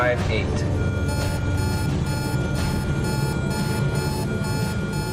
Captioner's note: alarm beeping